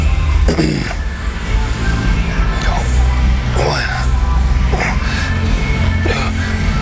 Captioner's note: grunting